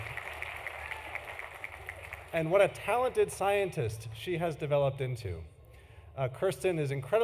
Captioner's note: applause